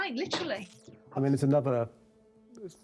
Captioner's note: light crackling